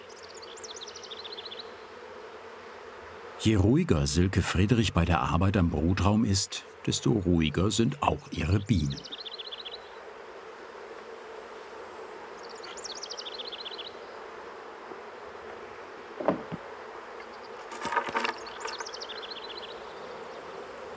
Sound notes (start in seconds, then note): 0.1 humming, birds chirping; 10.9 buzzing, birds chirping; 17.7 rattling noises